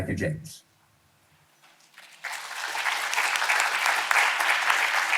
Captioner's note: audience applauding